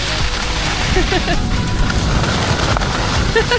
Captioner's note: laughs